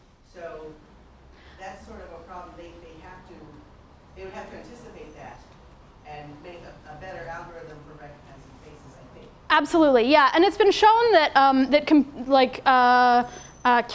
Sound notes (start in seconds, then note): none